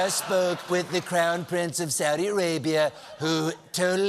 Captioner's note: laughter